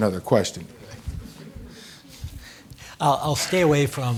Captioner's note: audience laughing